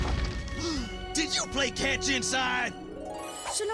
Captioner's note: explosion; gasps